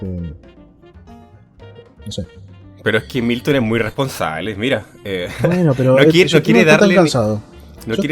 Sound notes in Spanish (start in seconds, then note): 5.3 risas